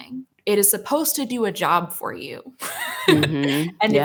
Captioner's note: laughs